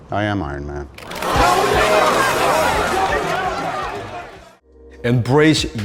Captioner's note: audience clamoring